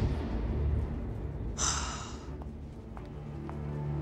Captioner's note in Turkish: İç çeker